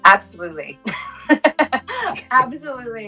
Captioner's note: laughing